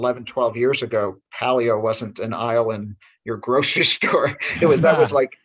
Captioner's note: chuckles